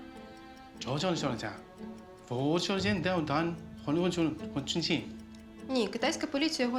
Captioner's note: talking in chinese